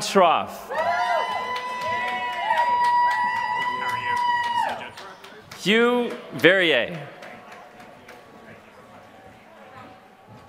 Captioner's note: applause